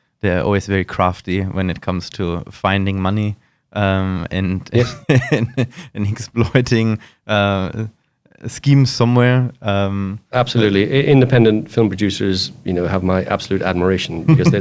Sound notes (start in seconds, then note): 4.7 laughs